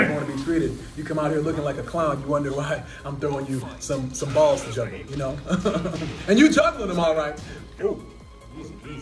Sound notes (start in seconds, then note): 5.4 laugh